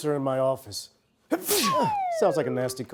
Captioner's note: sneezes